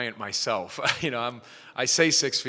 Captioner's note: chuckles